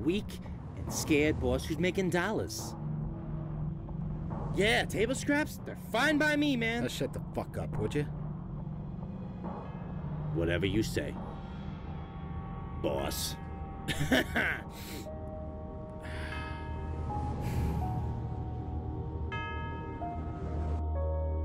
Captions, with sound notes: from a weak and scared boss who's making dollars. Yeah, table scraps? They're fine by my, man. - Shut the fuck up, would ya? - Whatever you say... Boss. (laughs) (mysterious music)